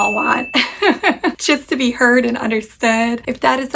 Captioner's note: bell chimes